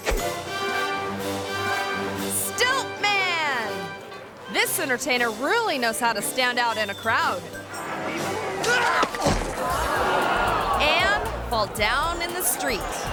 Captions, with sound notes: (majestic music) Stilt Man! This entertainer really knows how to stand out in a crowd. (stilt man thudding) (crowd gasping) And fall down in the street.